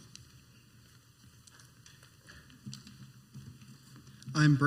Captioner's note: footsteps